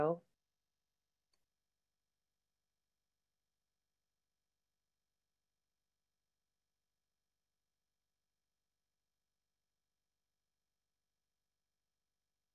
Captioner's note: slience